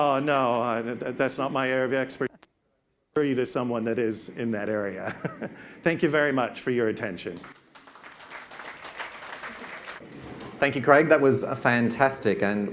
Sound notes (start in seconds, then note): 7.2 audience claps